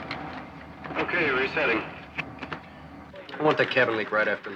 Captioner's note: man On Radio